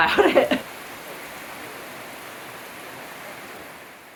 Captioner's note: heavy rain